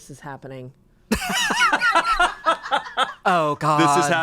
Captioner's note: laughs